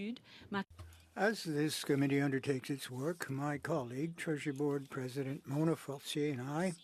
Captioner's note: speaking French